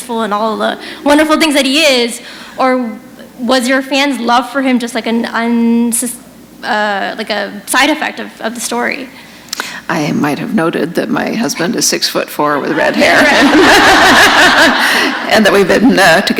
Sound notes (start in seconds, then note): 12.7 laughter